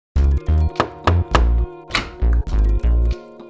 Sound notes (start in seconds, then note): 0.8 knocking; 1.8 door opens